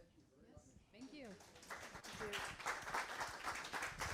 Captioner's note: audience applauding